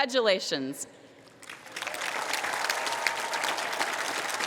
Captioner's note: cheering, applause